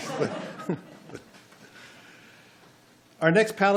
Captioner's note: laughing